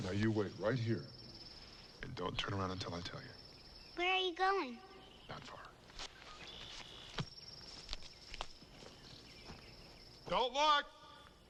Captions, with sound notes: - Now, you wait right here and don't turn around until I tell you. - Where are you going? - Not far. (birds trilling) (insects chirping) Don't look!